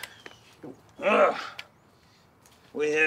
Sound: Mitchell grunts

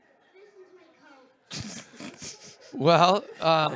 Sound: laugh

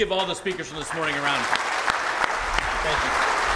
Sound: audience applause

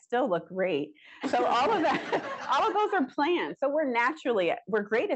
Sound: laughter

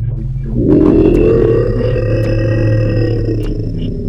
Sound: roaring noise

